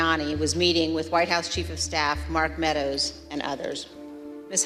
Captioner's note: none